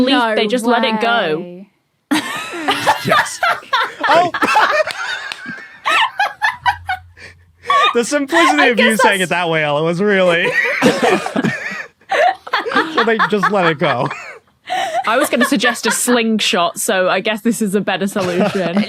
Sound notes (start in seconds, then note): 2.1 laugh; 2.1 blurts laugh; 10.2 group laughing